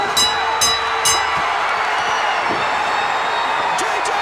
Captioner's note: bell rings; crowd cheers